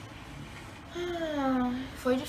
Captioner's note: sigh